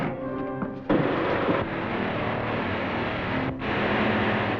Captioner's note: sound of drilling